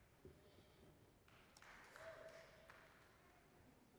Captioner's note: scattered applause